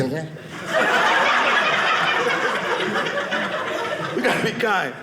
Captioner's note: audience laughing